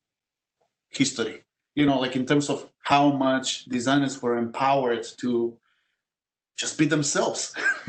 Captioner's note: laugh